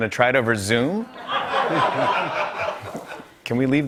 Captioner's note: laughter